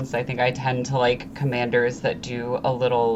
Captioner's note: none